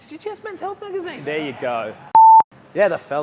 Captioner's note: beep